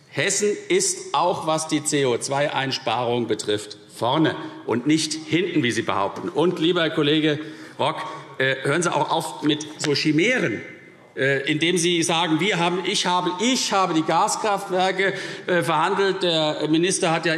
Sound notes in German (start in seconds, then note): none